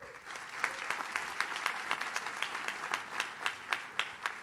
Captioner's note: audience claps